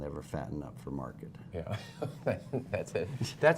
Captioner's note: laughter